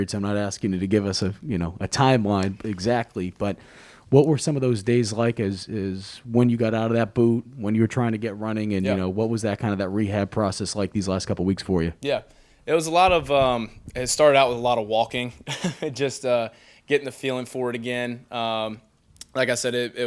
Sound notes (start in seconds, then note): 15.3 chuckling